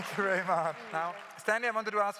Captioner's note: claps